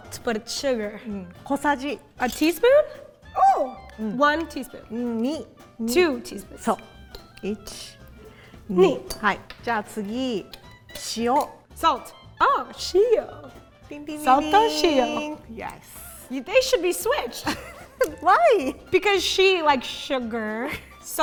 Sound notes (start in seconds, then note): 1.5 speaking in Japanese; 5.3 speaking in Japanese